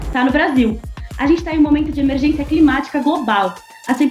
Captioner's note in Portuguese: som de sirene